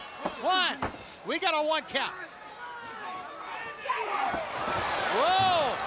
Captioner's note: crowd chatter